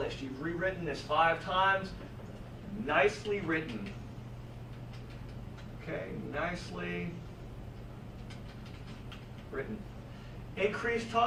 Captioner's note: typing